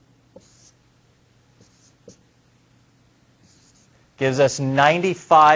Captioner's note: writing